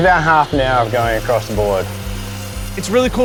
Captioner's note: sawing